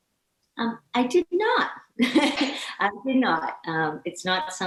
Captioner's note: laughing